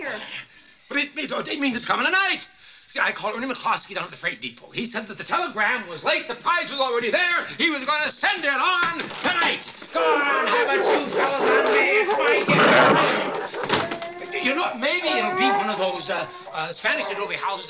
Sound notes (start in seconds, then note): 9.2 dogs barking; 13.0 dogs groaning; 14.0 dog whimpering